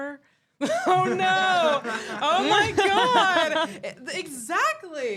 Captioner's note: laughing